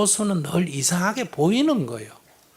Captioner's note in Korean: none